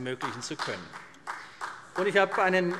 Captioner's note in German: Vereinzelter Beifall CDU